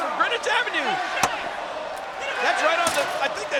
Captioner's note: sign thuds